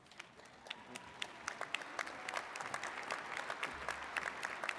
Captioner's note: attendees clapping